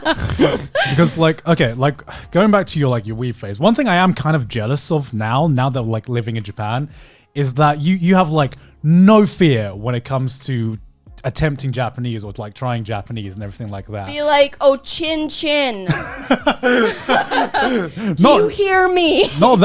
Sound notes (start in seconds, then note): 0.0 laughing; 14.9 speaking foreign language; 15.8 laughing